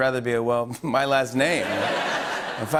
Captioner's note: laughter